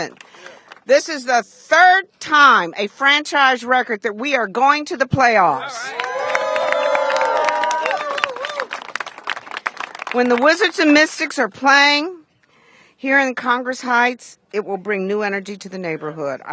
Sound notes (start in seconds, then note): 7.8 applause